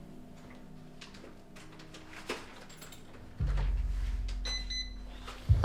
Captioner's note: door unlocking